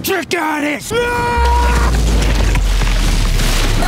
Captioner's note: screams